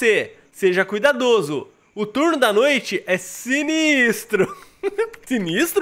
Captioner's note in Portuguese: risos